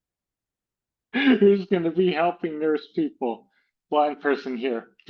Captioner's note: laughs